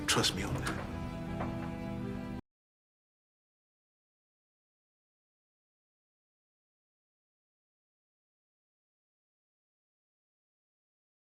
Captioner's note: door opens